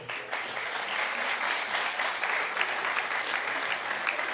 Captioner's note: audience clapping